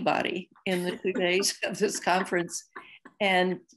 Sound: laughter

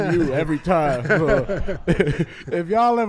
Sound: laughs

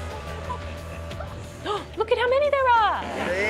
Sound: gasps

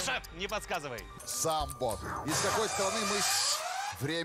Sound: siren

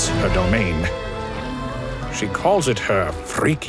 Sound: distant moans

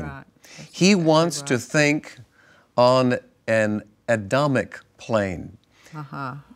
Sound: laughs

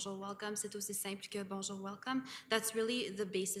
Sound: speaking in French

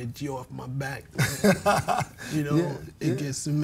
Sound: laughing

